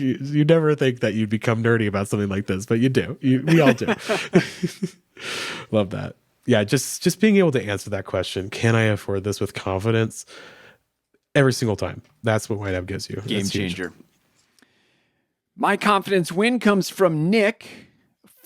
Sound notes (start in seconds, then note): 3.3 both laugh